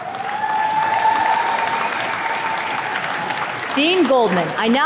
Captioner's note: attendees cheers and claps